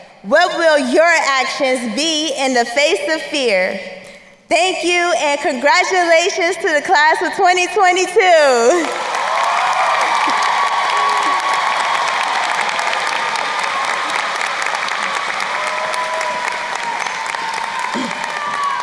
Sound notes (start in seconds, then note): 8.9 crowd cheering and applauding